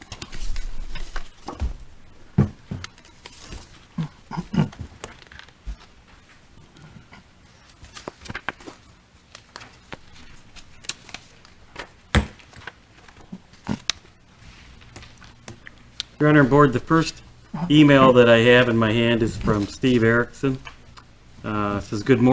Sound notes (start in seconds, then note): 7.4 papers rustling